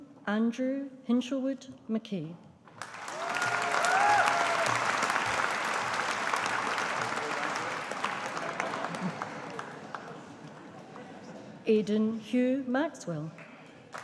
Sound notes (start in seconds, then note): 2.7 audience applauding